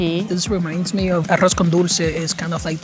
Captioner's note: speaking in foreign language